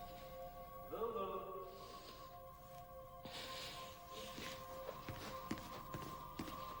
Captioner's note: Louise breathing heavily